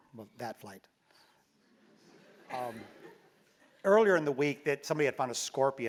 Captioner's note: laugh